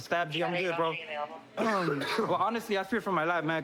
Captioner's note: coughs